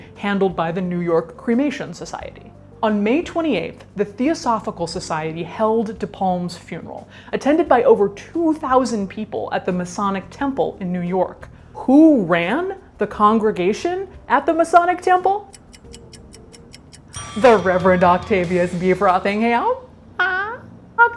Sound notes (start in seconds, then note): 15.4 clock ticks